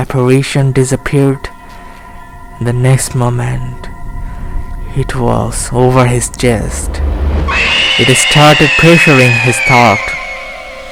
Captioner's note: scream